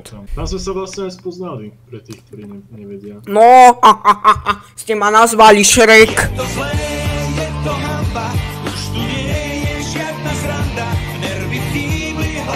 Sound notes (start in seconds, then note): 3.6 laughs